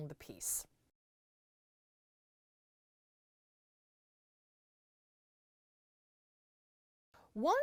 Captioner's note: no Sound Present